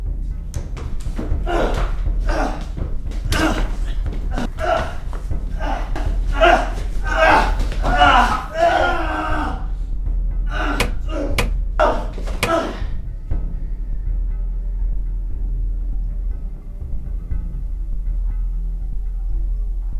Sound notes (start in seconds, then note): 1.4 Chris grunting; 8.5 Chris grunts and yells; 17.1 ominous music